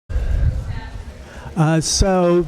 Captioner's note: background chatter